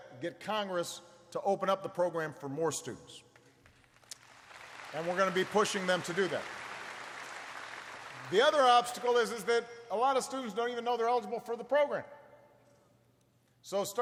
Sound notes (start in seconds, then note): 3.4 applause